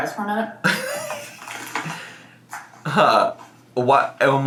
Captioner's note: laughs